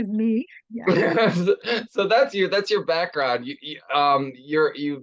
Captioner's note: laughs